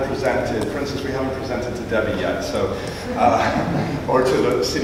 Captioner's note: laughing